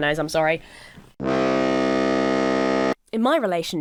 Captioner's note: foghorn blows